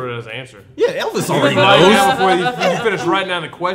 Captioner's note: laughing